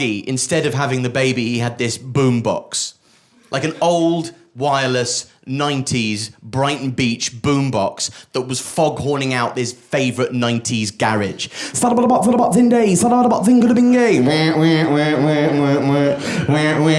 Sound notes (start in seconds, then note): 11.9 beat boxing